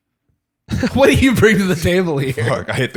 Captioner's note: scoffs